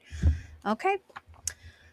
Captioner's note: clicks tongue